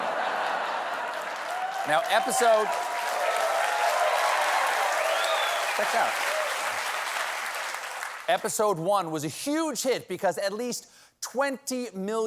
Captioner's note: laughter; cheers and applause